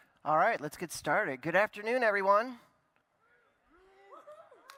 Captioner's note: cheering